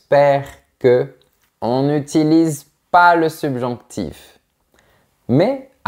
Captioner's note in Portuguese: em francês